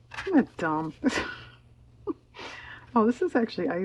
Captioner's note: laughs